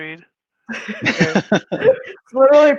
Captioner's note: laughing